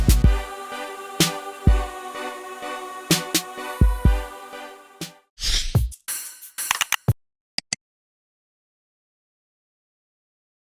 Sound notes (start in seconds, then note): 5.4 swoosh; 6.7 keyboard typing